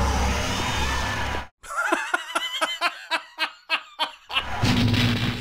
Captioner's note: bursts out laughing